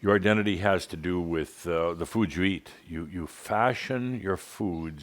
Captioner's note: none